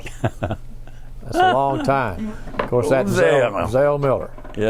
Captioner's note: laughs